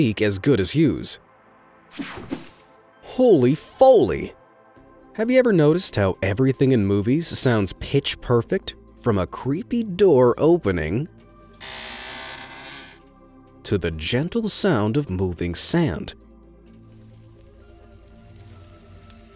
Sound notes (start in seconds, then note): 11.6 eerie creaking; 16.5 gentle music